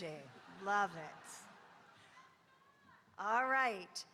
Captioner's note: audience laughing